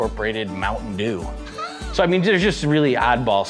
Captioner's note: laughs